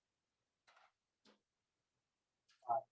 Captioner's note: silence